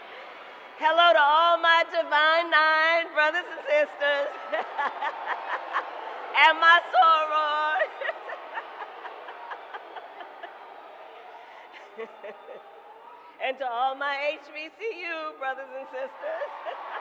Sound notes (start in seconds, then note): 0.0 applause; 0.0 laughs; 5.8 laughs; 11.2 applause